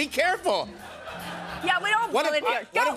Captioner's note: laughter